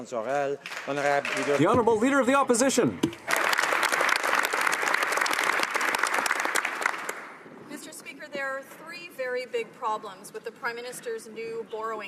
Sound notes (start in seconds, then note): 4.2 speaking French; 7.9 some Applause